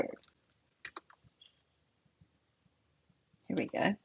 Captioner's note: keyboard clacks